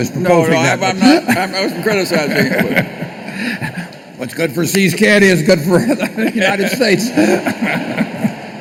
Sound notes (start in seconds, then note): 5.6 laughter